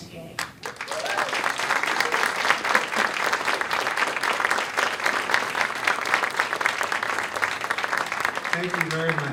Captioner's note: applause